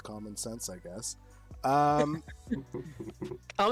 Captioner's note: laughs